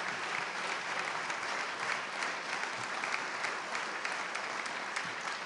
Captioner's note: applause